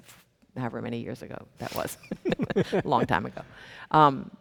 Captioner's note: chuckles